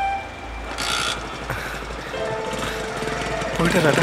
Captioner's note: bike engine revs on